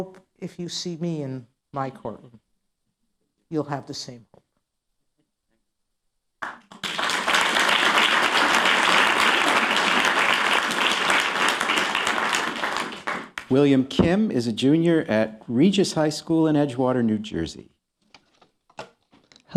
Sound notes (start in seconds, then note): 4.2 applause